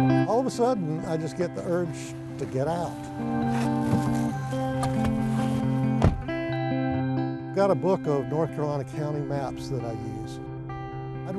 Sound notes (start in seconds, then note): 5.9 truck door slams